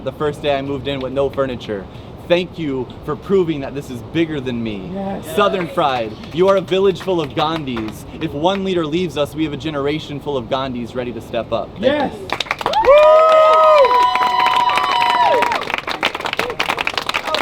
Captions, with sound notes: the first day I moved in with no furniture. Thank you for proving that this is bigger than me. Southern-Fried, you are a village full of Gandhis. If one leader leaves us, we have a generation full of Gandhis ready to step up. Thank you. (audience claps)